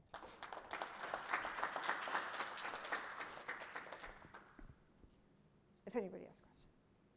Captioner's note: applause